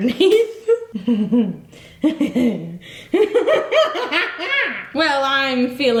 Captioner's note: laughing maniacally